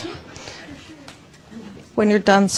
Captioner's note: students chattering